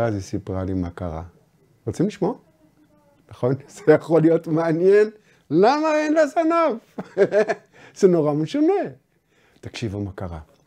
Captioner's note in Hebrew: צוחק